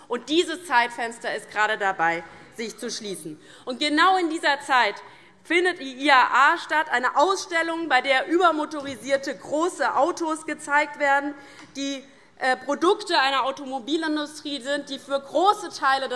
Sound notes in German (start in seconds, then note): none